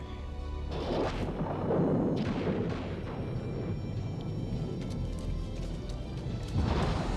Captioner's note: thunder rumbling; lightning crashes